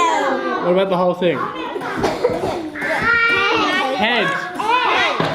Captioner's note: kids In Unison; kids cough; kids In Unison